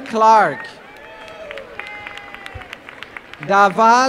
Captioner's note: applause